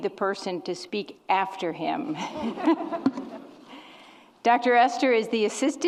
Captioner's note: laughs